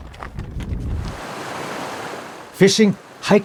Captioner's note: water splashing